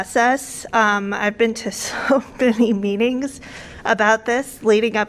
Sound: laughter

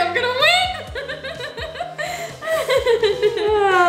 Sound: laughing

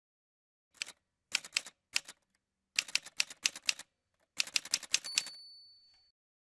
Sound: typewriter sounds

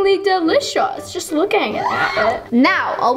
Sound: shriek

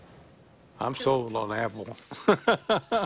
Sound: laughter

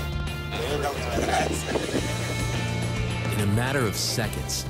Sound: man talks faintly

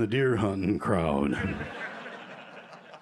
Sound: laughter

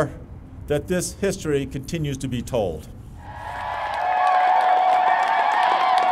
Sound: victory chants, clapping

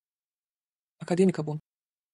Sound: fast Pronunciation

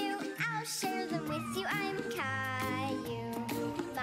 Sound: meow

